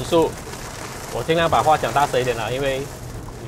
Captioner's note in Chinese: 下超大雨